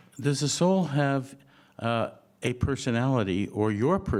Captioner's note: none